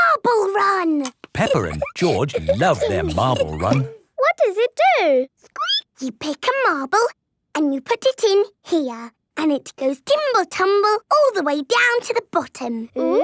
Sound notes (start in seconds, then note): 5.5 squeaking